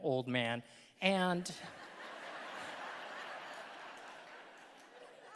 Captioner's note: audience laughing